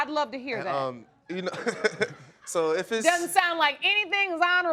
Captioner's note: laughs